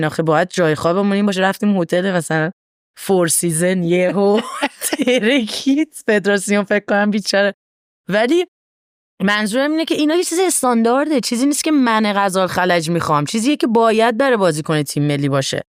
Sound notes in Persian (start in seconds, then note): 7.2 خنده